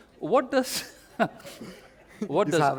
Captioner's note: laughter